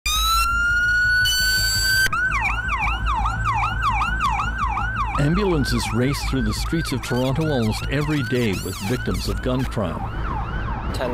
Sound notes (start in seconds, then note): 2.6 sirens blaring